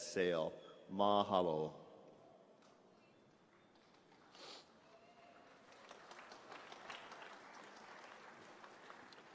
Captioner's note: applause